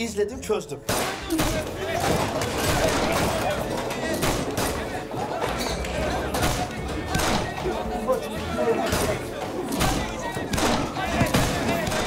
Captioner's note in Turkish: Silah sesleri